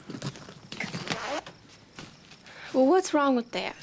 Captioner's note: suitcase unzipping